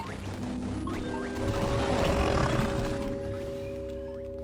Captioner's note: curious music plays; Kaufmo growls